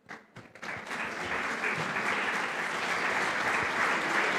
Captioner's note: applause